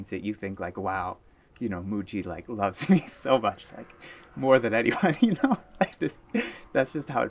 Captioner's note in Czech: smích